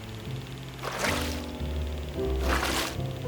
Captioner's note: splashing